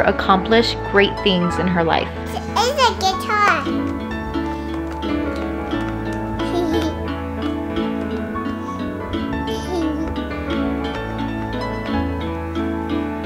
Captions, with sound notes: accomplish great things in her life. - It's a guitar. (light music) (giggling) (light music)